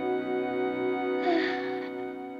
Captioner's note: sighs